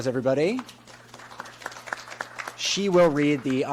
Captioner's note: audience applauds